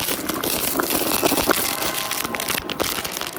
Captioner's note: chaotic sound effects